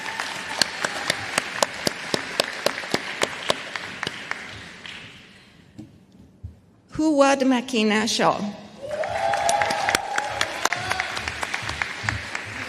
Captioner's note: applause